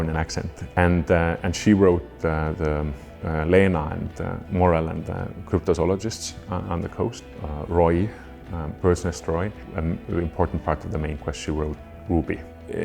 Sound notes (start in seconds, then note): none